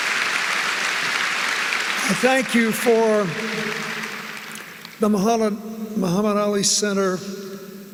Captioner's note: applause